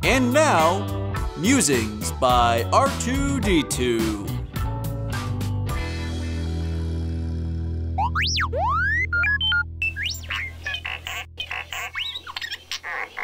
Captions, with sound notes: And now, musings by R2D2. (upbeat music) (R2D2 beeps)